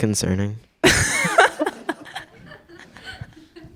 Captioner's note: crowd laughs